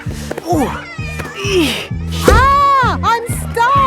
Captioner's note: grunting